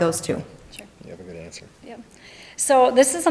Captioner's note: chattering